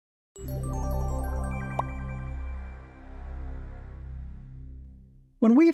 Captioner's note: twinkling music; graphic pops